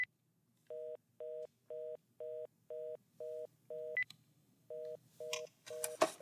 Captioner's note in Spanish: Bip